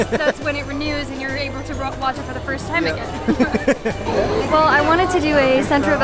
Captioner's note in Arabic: يضحك